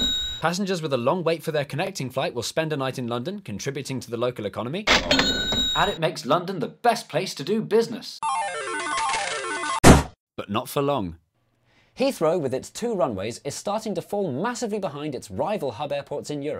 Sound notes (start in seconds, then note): 4.9 ka-ching; 9.8 balloon burst